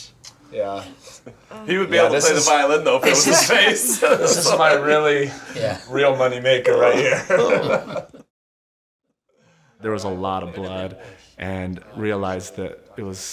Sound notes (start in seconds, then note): 3.9 laughter; 8.2 laugh